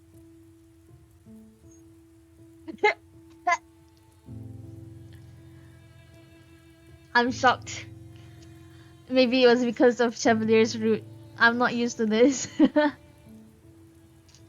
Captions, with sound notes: *choking* I'm shocked Maybe it was because of Chevalier's route I'm not used to this *laughs*